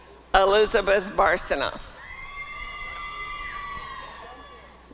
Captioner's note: applause and cheering